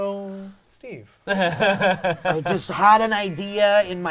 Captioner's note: laughing